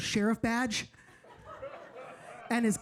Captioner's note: audience laughing